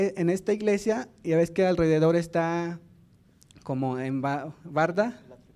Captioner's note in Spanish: habla en lengua indígena